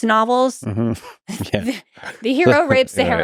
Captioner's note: chuckles